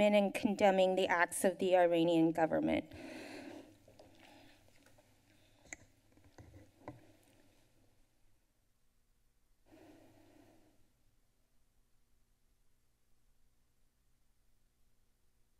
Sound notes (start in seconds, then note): 3.8 silence; 15.3 silence